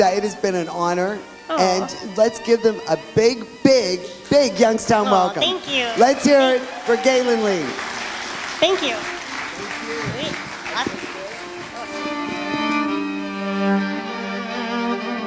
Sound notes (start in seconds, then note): 8.7 audience applauds; 12.1 fiddle plays